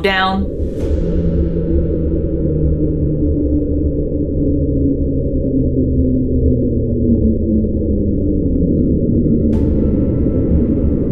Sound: low sound slowly descending in pitch

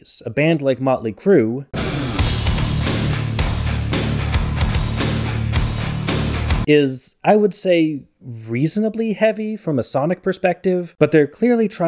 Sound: bang

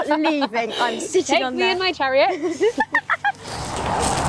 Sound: laughing

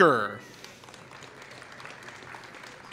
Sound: applause

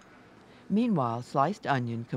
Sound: voiceover

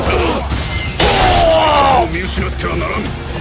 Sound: KO Scream

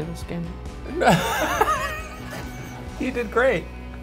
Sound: Shane laughs

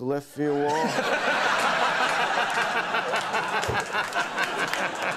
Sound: audience laughing

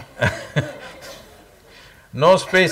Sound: laughs

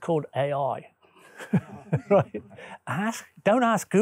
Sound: laughs

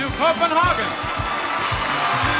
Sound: audience applauds

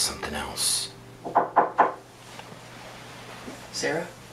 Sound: knock at door

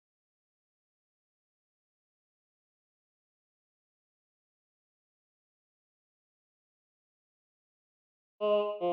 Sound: blinking and looking around in silence

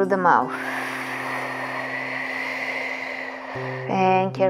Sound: exhaling

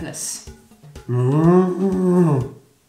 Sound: makes a stupid noise

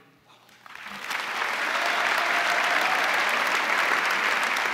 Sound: crowd applauding

